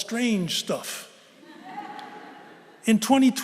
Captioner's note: laughter